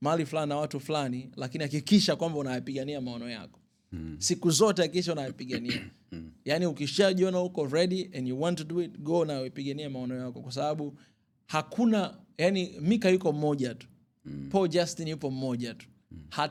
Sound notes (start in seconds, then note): 5.3 clearing your throat